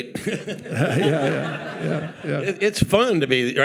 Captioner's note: laughing; audience laughing